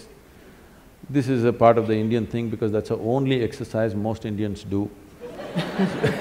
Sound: laughter

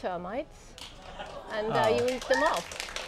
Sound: audience applauds

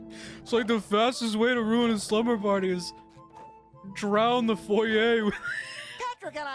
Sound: wheezing; Patrick Voice

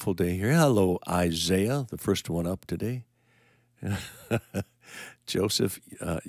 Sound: chuckling

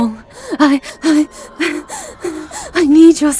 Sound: frantic desperation in her voice

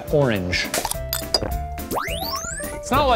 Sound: pops; clinks; electronic whoosh

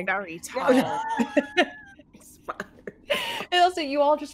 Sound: all laughing

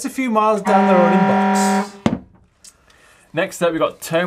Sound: siren rings

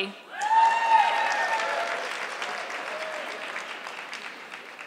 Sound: audience clapping

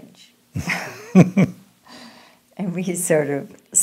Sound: both laughing

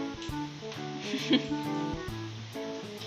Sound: laugh

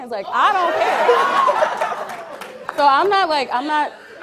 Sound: audience cheering and applauding

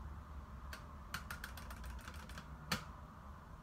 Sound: furiously mashes mouse

